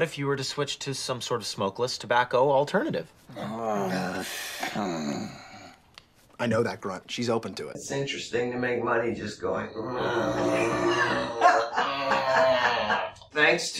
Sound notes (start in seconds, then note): 3.3 she grunts; 9.7 makes grunt noise